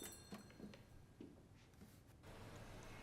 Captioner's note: footstep